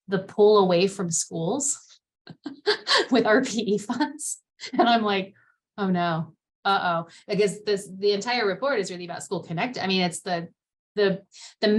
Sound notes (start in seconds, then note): 2.3 laughter